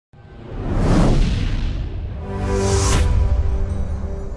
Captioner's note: wooshing intro